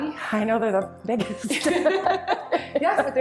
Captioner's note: laughing